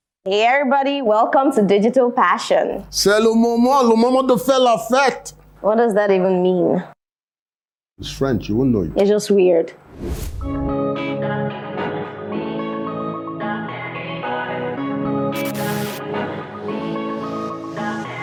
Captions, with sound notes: Hey everybody, Welcome to digital passion. (speaks in french) What does that even mean? It's french. You won't know it You're just weird.